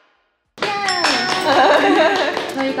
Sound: clap, clap

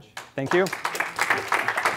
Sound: applause

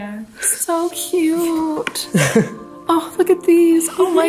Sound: laughs

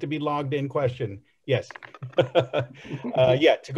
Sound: laughs

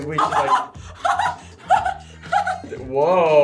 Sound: laughs

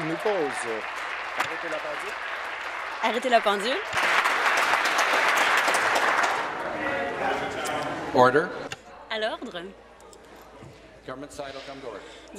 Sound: applause

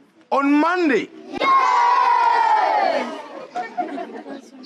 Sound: pupils yelling YES

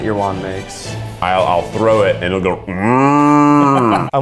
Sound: moos

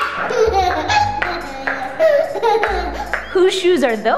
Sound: laughs

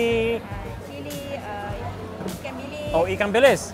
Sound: chef speaks in a foreign language; speaks in foreign language

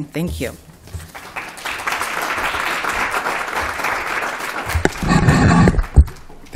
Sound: applause

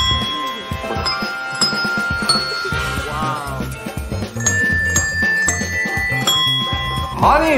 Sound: the bells from answer

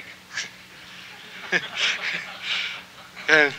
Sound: laughter

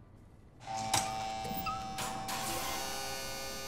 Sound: buzzing

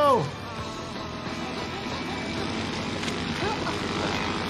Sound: plane whizzing

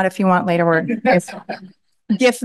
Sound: laughter

